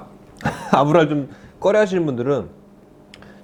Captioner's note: chuckles